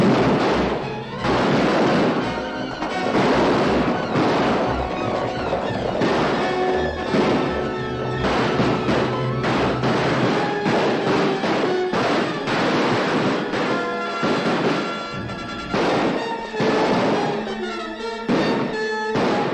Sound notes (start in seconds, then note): 8.1 firing